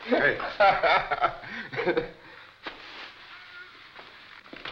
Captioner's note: laughing